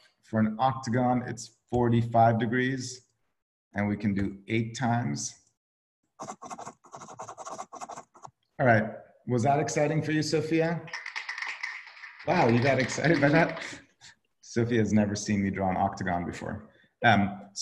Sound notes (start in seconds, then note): 6.2 typing; 10.8 soundboard clapping